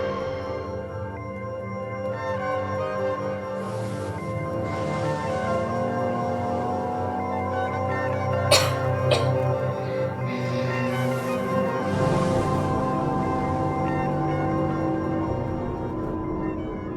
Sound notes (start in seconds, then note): 8.4 coughing